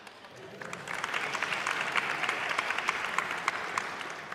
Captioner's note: audience applauding